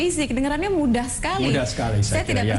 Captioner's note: non-english speech